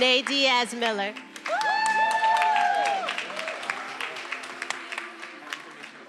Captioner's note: attendees applauding and cheering